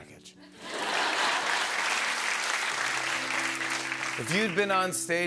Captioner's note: laughter and applause